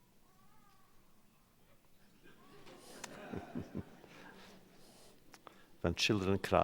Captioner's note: child crying; laughter